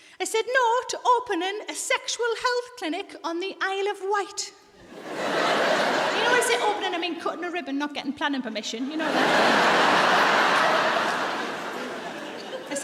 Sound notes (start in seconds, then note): 4.8 audience laughs; 8.8 audience laughs